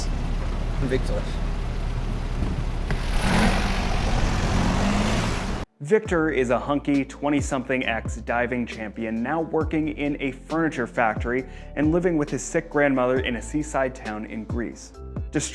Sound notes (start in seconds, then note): 1.8 car engine humming